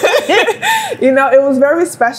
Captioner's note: both laugh